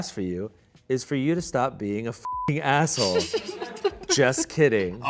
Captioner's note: beep